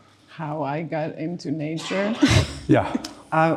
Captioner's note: giggling